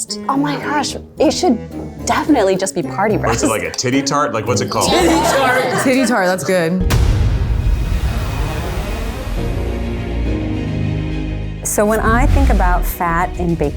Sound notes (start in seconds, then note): 4.5 laughing; 6.7 dramatic music